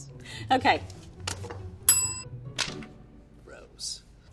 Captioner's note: bell rings